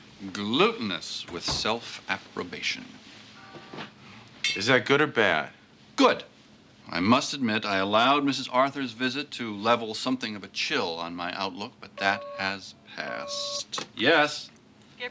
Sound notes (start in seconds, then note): 12.0 phone beeps